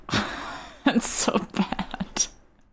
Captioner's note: laughs